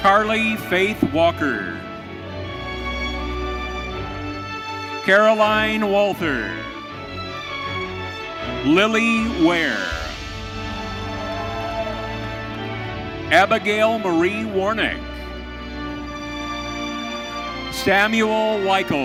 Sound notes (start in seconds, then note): 9.6 audience cheering